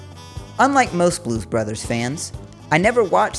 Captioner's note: in a bad Chicago accent